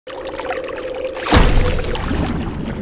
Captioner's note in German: Plumps